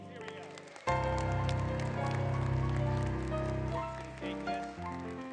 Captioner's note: applause, Music